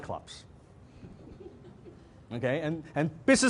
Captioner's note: audience laughs